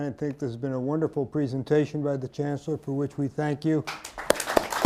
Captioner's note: applause